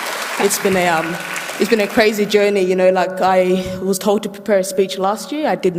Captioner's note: applause